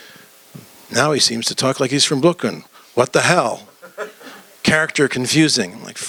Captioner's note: laughter